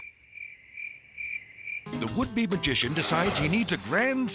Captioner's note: crickets chirping